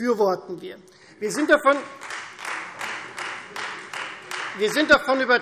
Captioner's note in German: Beifall Freie Demokraten